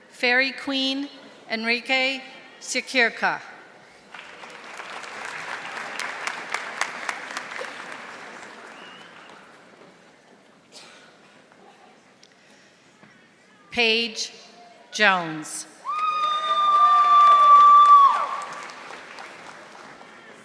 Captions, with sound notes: Fairy Queen, Enrique Secura. (audience applauding) Paige Jones. (audience applauding)